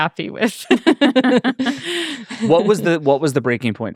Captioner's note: laughing